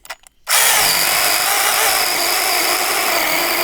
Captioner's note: drill whirring